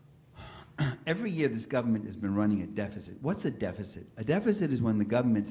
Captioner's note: cough